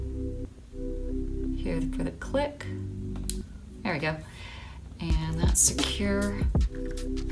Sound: click

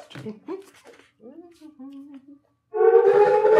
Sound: laughing; humming happily; loud air-raid siren blaring

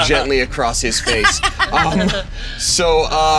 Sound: laughing

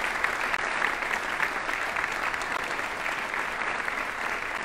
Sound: audience applauding

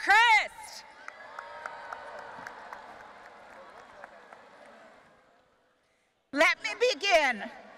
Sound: audience applauding and cheering

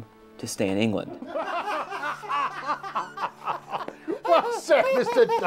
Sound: men laughing

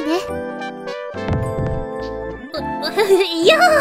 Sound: ba-dump

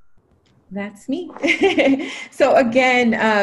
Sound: laughs

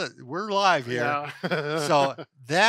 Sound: laughs

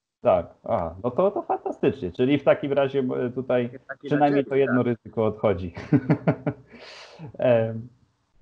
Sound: laughs; laughs

